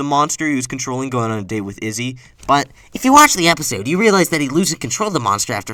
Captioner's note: nerd voice